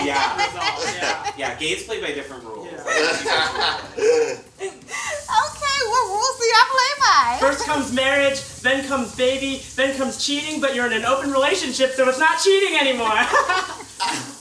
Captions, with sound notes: - Yeah. Yeah. Gays play by different rules. - Yeah. (all laugh) - Okay. Well, what rules do y'all play by? - First comes marriage, then comes baby, then comes cheating, but you're in open relationship, so it's not cheating anymore.